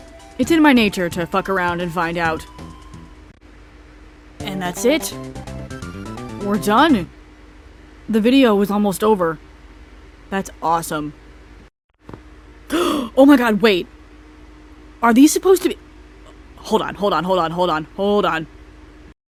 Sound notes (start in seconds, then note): 12.7 gasp